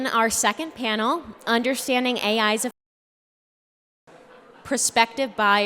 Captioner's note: audio cuts out